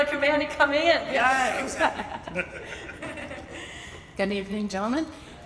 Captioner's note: laughs